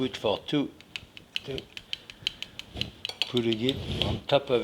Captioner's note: spoon tapping